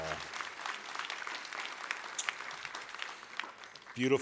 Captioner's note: applause